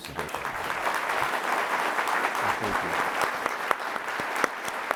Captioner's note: everyone applauding